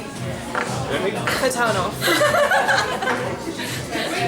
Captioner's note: laughter